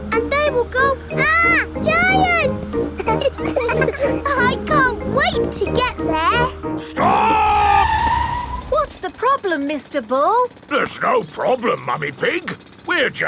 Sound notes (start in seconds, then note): 2.9 all laughing; 7.0 tires screeching